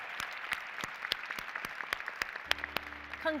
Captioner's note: applause